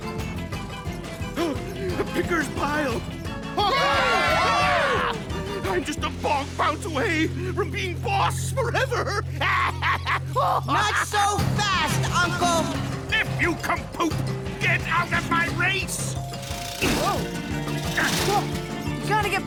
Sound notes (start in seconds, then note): 3.7 cackles